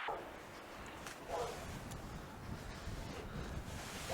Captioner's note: wind gushing; dog barking at distance